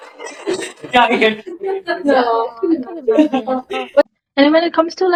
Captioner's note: laughter